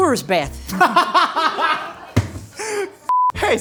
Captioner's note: laughing